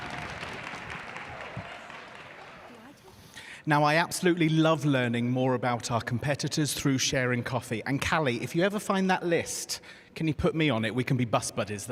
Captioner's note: applause